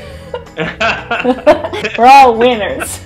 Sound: laughter

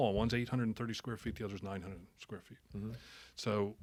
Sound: none

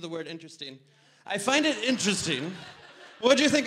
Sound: audience laughter

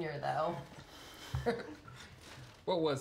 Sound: laughing

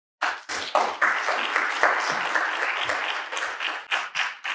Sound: crowd clapping

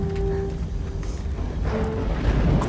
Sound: thundering

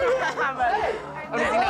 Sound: laughing

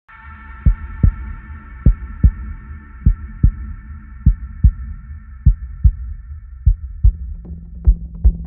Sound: heartbeat

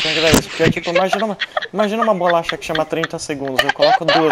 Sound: laughing really hard

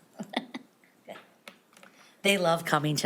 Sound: person laughing

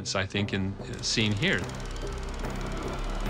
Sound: projector clicking

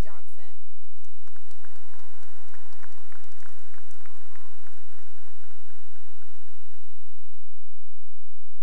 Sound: cheering and applause

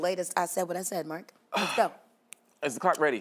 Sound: ticking

